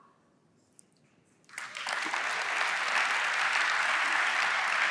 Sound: applause

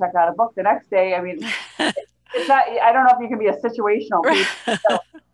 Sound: brief laughter

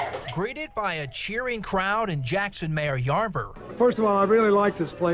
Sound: cheers

